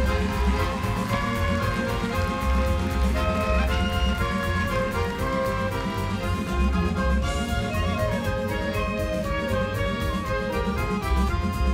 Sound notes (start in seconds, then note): 2.3 crowd cheers